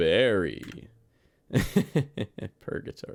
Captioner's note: laugh